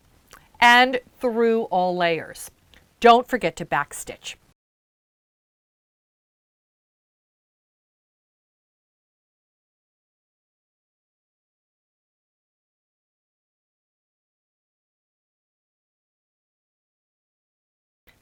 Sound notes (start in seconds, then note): 4.5 no Sound Present